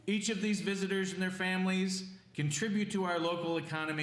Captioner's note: none